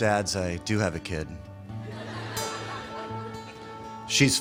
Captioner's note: laughter